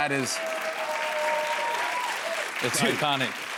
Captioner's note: cheers and applause